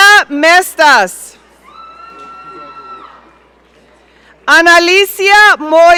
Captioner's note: audience cheering